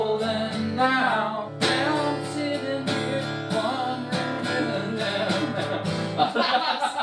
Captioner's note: murmurs; laughs